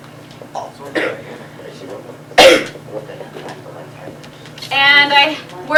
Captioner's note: coughing